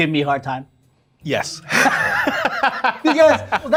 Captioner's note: laughing